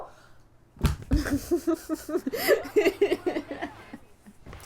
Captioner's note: sound of controller dropping; laughter